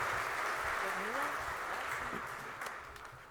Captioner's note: applause